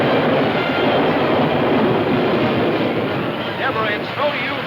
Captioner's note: thunder claps